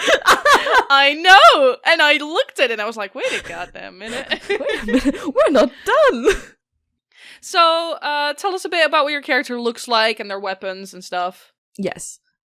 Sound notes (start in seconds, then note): 4.0 both laugh